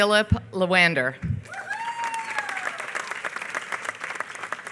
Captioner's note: applause